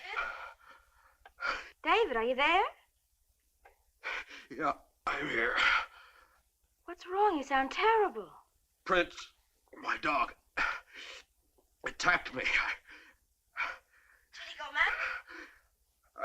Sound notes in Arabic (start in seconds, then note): 5.1 يتنهد; 10.9 يئن